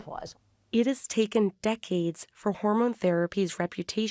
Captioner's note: voice-over